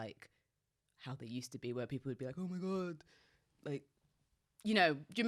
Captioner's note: none